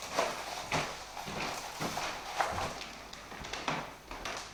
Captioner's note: footsteps thudding